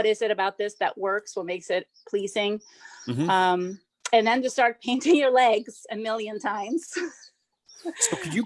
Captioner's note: laughs